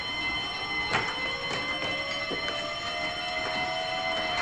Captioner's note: alarm ringing continues